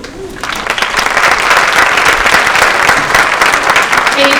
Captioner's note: applause